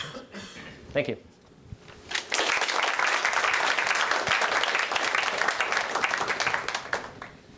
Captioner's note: applause